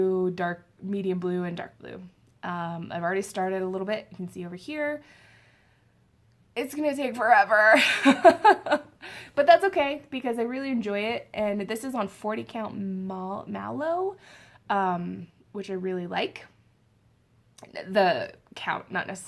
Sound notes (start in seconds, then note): 7.8 laughs